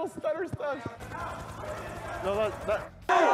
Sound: helicopter noise

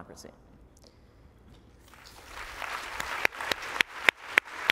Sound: applause

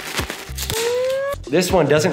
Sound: siren blaring

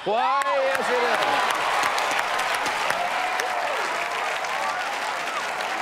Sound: cheers and applause

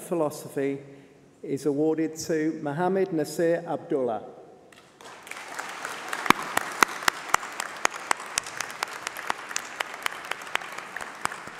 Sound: applause

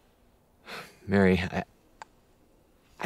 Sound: sighs

